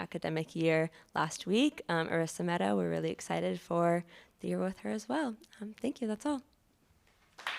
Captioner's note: applause